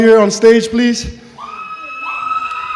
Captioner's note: cheering